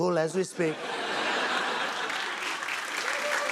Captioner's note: laughter; cheers and applause